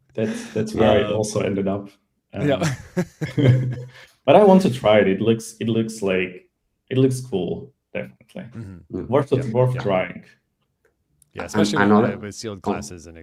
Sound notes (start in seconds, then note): 2.4 laughter